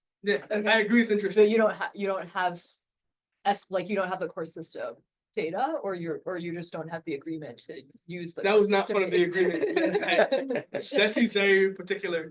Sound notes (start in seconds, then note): 9.2 laughter